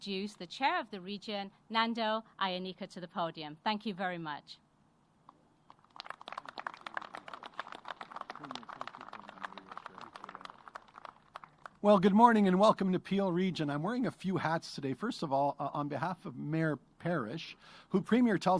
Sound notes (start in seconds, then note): 8.7 applause